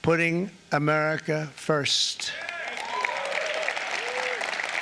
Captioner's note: applause